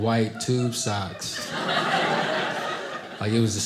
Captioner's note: audience laughing